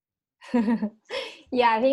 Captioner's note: laughing